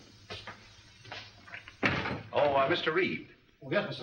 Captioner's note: door closes